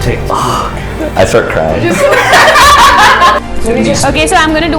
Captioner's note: laughter